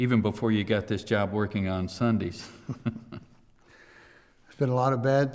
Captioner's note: chuckles